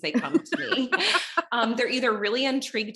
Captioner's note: laughs